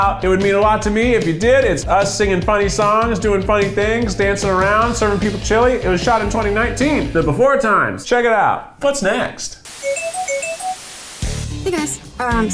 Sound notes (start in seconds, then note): 9.6 static crackling; 9.8 whimsical music